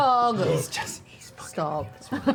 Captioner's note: laughs